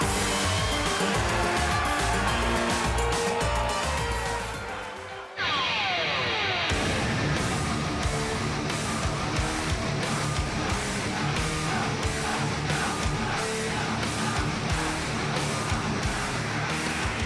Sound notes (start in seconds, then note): 0.0 cheers & applause